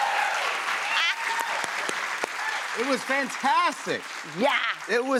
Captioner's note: cheers and applause; laughs